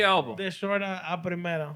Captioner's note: speaking Spanish